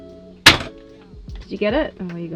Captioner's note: knife cracks shell